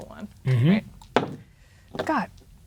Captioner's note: dice rolling